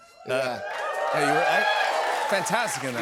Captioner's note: cheers and applause